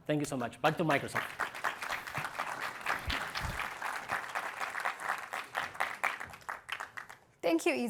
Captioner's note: applause